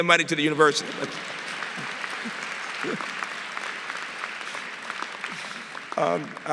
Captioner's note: applause